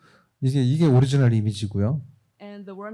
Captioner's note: speaking korean